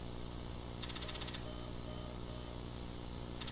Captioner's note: beeping